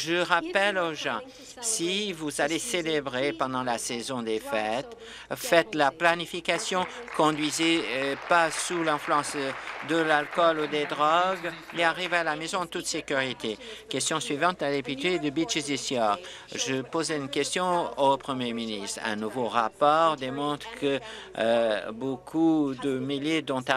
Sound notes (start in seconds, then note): 10.9 applause